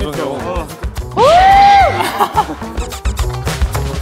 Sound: winner's cry

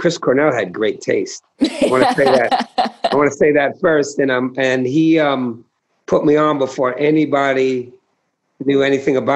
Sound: laughter

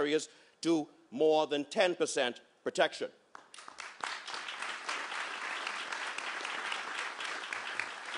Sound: applause

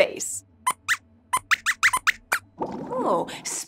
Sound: squeaks squeaks

